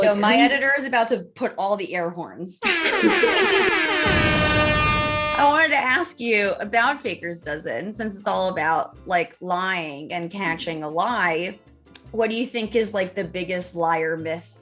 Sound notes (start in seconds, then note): 2.6 air horns